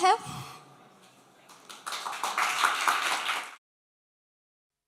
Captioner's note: applause